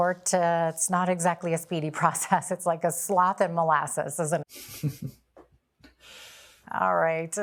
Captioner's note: laughter and snorts